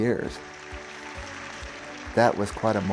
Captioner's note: audience applauds